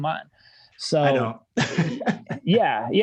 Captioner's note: laughing